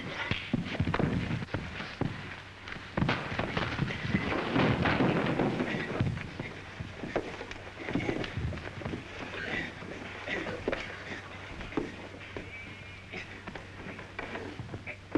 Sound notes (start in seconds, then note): 0.0 scuffling